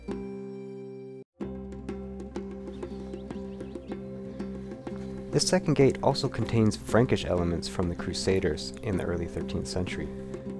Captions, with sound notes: (chill music) (birds chirping) The second gate also contains Frankish elements from the Crusaders in the early 13th century.